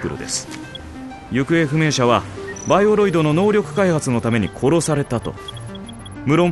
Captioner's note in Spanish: sonidos del dispositivo; sonidos del dispositivo